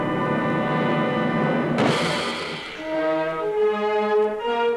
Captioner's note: slamming